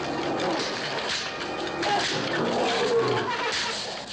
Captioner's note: gorilla growling; whip cracking